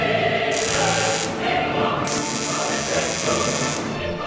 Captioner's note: classical music; tools whirring